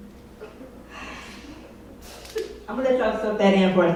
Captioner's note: sighs